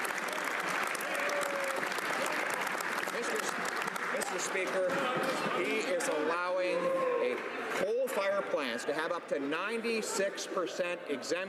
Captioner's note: applause